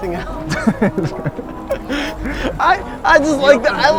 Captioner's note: laughs